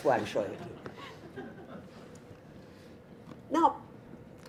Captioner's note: audience laughter